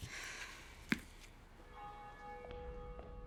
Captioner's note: church bell ringing